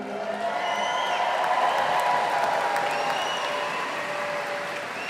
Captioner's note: audience applauding